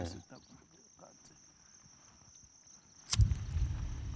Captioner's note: lighter clicks